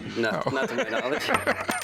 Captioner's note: laughter